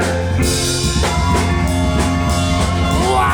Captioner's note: audience cheering